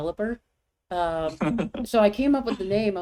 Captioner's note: chuckles